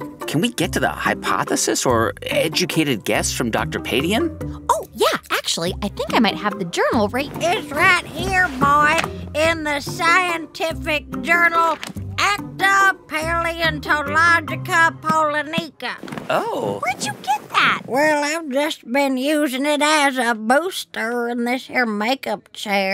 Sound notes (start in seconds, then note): 11.6 soundbite of pages